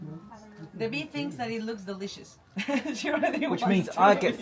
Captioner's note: laughs